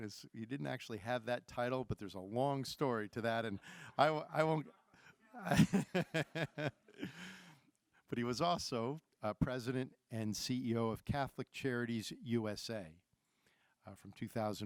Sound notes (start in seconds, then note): 5.4 laughs